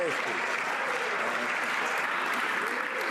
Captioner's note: some Applause